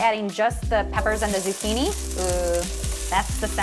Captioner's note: oil sizzling